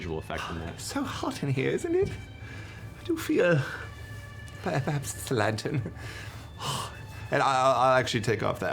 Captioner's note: pants